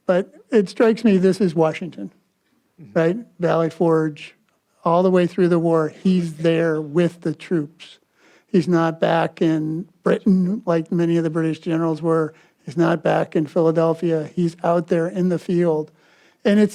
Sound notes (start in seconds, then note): none